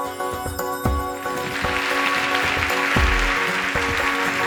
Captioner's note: applause